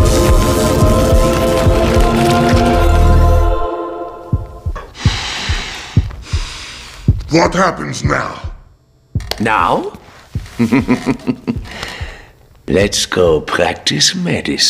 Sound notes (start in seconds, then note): 4.8 inhales then exhales